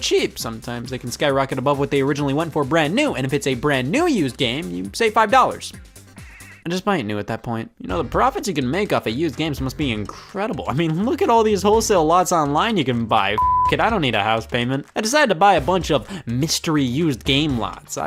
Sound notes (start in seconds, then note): 13.3 beep